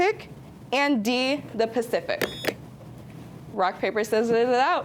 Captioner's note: buzzer beeps